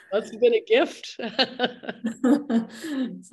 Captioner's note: laughs